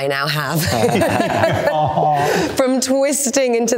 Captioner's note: all laughing